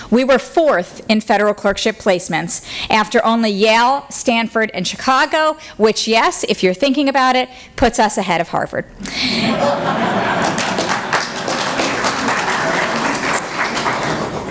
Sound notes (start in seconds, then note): 9.1 laughter; 9.9 applause